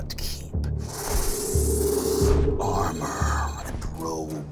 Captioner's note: sharp inhaling